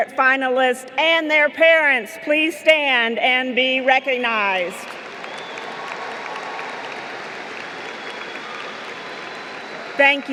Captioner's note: applause